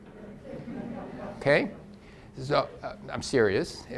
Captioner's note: audience laughs softly